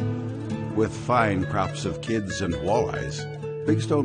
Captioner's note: voiceover